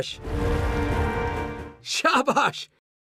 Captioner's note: speaks foreign language